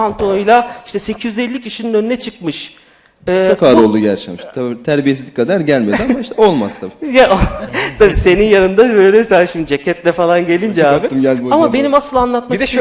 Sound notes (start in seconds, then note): 7.2 laughs; 10.9 laughs